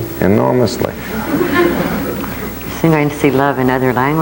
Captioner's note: laughing